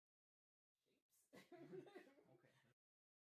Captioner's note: laughs